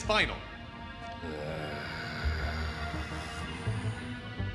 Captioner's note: grunts